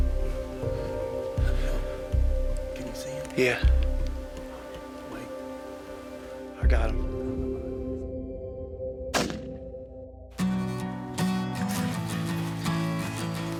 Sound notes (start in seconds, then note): 9.1 gun pops; 10.5 upbeat music